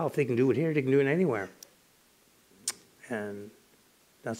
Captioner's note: none